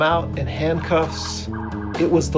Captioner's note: police siren chirping